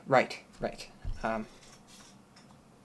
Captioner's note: more rustling